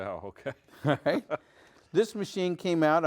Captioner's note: chuckles; laughs